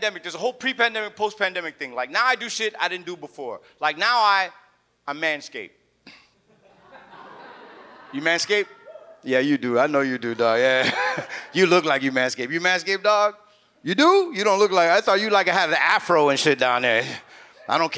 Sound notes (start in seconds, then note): 6.5 audience laughs